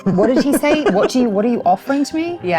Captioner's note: laughs